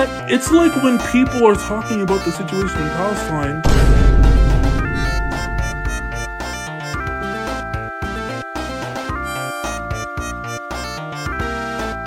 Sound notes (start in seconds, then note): 3.1 vine boom transition into bugs bunny saying "no"